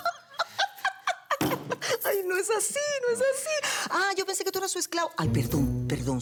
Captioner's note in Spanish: Risas